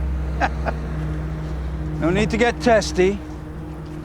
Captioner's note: laughing